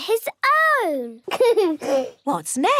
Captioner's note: giggles